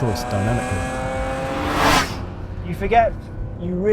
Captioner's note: engine revs